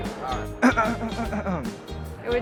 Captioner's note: clears throat